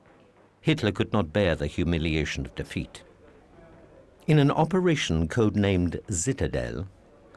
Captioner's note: none